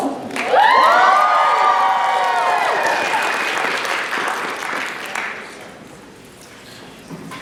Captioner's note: applause